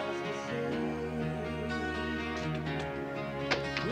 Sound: gentle rock music; door clunking

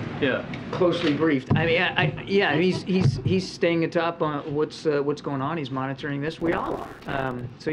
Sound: laughter

